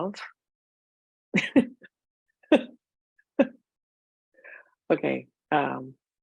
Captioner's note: laughs